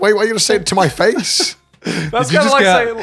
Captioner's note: laughs